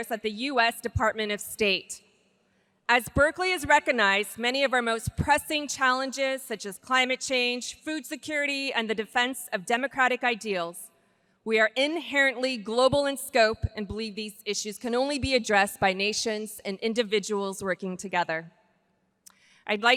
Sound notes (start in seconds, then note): none